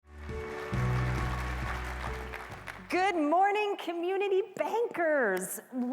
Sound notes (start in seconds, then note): 0.0 applause